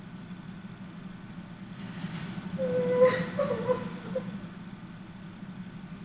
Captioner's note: crying